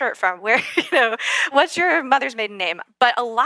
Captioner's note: laugh